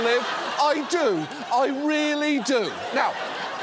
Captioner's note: audience laughs